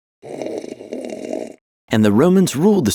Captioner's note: man yawning; straw slurping